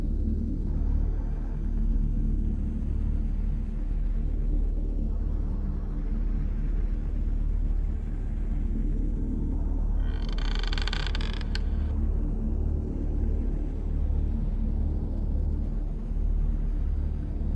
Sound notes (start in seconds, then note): 10.0 door creaks